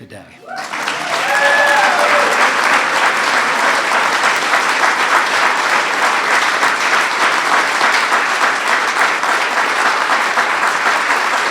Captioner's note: applause